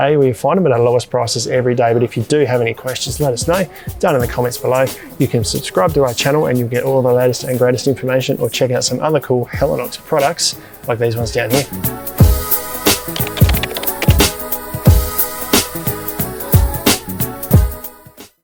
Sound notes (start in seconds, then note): 12.9 upbeat music; 13.0 keyboard clicking